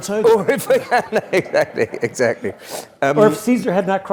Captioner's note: laugh